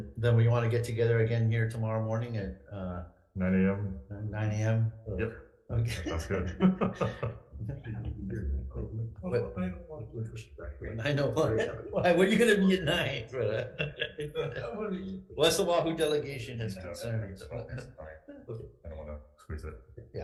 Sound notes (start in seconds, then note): 5.8 both laughs; 14.6 laughs